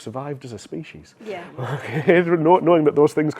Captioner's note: laughs